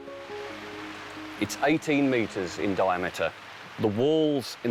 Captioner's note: rain pours down